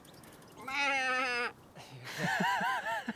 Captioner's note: mimicking sheep; laughing